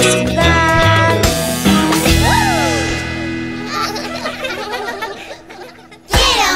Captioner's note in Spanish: Risas